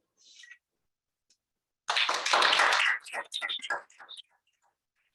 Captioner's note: applause